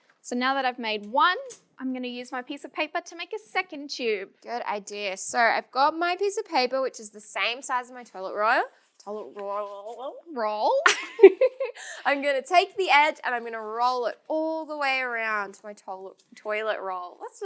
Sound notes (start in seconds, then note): 10.9 laughs